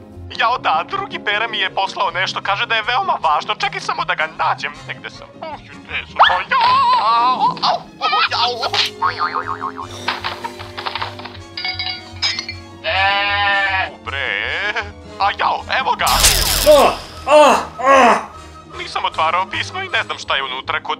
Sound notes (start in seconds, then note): 8.2 twisted cartoon sounds; 16.6 moans